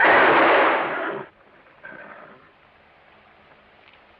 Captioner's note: horse calms down